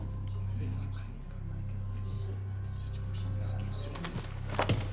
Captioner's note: audience murmuring